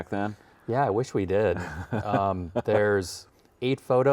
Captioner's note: laughs